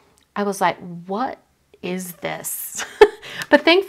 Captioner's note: chuckling